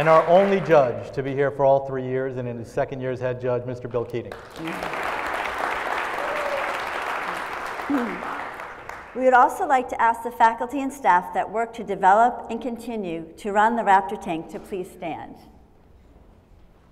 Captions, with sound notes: >> And our only judge to be here for all three years and in second year as Head Judge, Mr. Bill Keating. [ Applause ] >> We'd also like to ask the faculty and staff that worked to develop and continue to run the Raptor Tank to please stand.